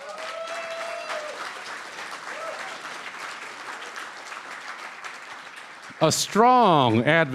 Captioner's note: cheering & Applause